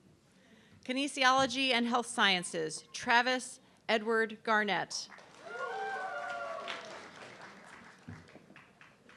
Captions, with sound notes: Kinesiology and Health Sciences, Travis Edward Garnet. (audience clapping)